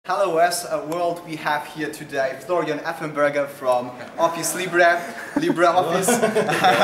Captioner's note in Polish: śmiech